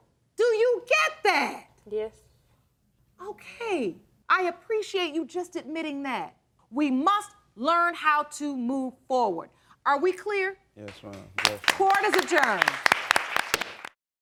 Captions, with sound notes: Do you get that? Yes. Okay, I appreciate you just admitting that. We must learn how to move forward. -Are we clear? -Yes, Your Honor. -(AUDIENCE APPLAUDS) -Court is adjourned.